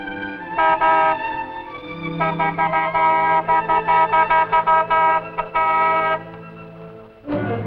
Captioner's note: car Horn